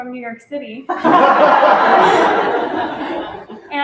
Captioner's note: laughter